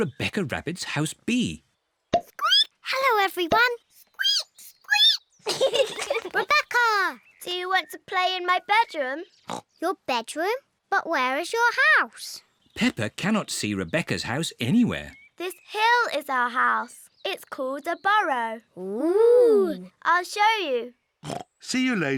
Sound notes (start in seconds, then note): 3.0 squeaks; 5.4 peppa and george giggling; 10.2 snorts